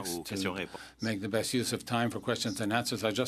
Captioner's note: speaking French